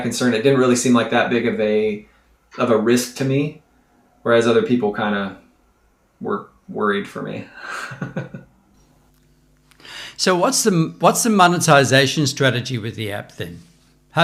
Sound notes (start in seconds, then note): 7.6 chuckles